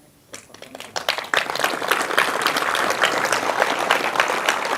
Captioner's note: audience applauds